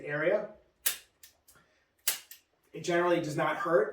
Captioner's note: instrument clicks